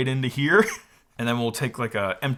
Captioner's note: chuckles